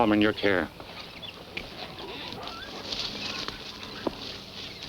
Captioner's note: birds chirping